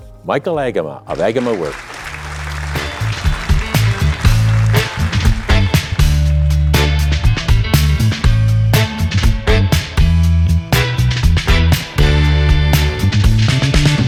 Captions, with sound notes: Michael Agema of AGEMA Work! (upbeat music) (audience applauding)